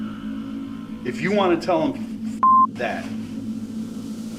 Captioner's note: beep